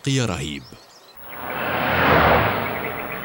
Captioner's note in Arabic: سيارة تقترب